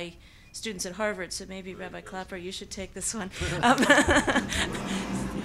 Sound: laughs

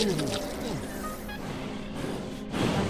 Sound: huffs

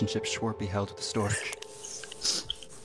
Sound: none

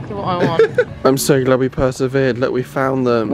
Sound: laughing

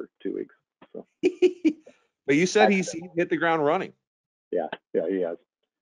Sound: chuckling

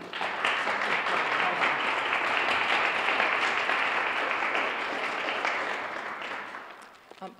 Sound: applause

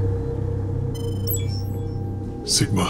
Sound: beeping

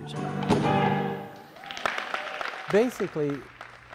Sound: applause

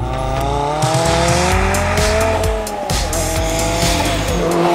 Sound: car engine roars

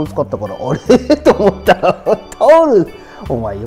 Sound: laughs

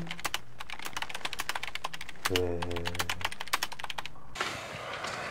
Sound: keyboard clucking

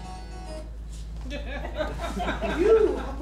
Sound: audience laughs

